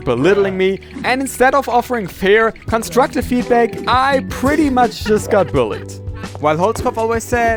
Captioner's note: laughter